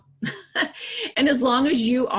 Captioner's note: laughs